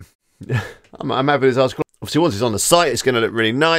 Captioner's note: chuckles